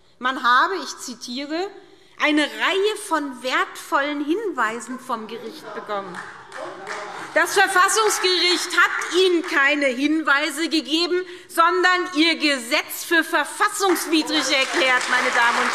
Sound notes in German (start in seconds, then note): 5.8 Heiterkeit und Beifall SPD und Freie Demokraten; 15.5 Lebhafter Beifall SPD und Freie Demokraten